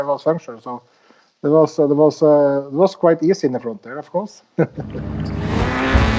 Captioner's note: laughs